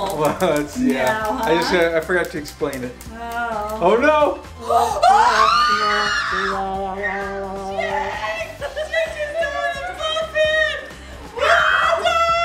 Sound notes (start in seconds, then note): 4.7 screaming; 6.0 sad music